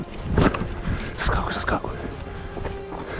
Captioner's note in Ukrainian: Шепіт